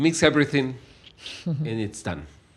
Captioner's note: laughs